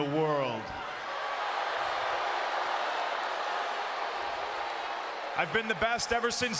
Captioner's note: applause